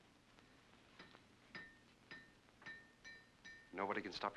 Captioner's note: metal clanking sound